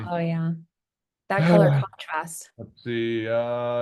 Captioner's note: sighs